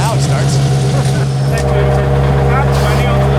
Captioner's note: engine loudly running